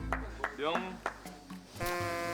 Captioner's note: stuttering